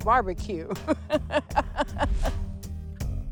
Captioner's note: laughs